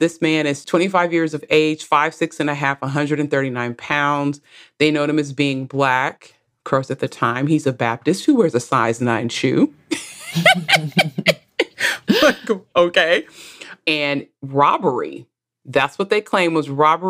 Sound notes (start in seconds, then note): 12.5 laughs